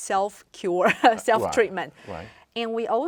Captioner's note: laughs